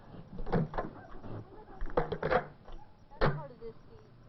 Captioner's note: snapping and clicking